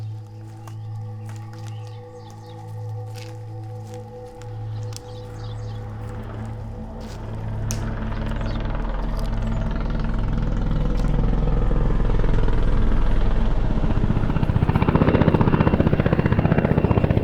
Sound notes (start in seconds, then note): 4.0 dramatic music; 4.0 helicopter chopping